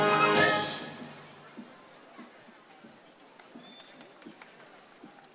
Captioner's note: crowd chattering